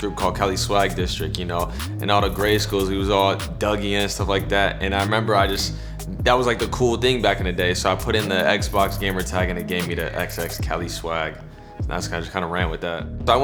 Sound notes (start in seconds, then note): none